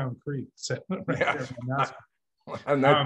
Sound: laughs

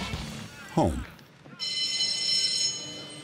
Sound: bell

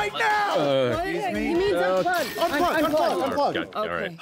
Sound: overlapping sounds of confusion

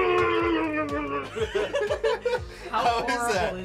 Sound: team laughing

